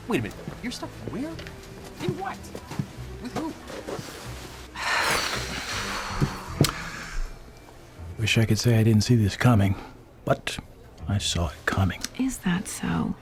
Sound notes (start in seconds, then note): 4.8 sighs heavily